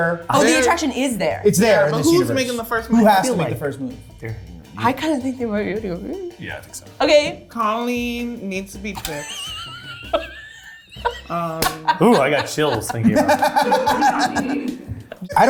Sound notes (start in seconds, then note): 9.0 cast laughing